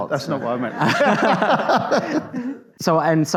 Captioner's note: audience laughs